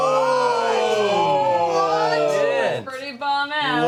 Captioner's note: yelling